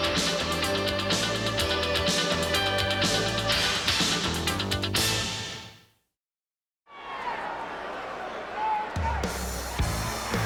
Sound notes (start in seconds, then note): 6.9 crowd cheering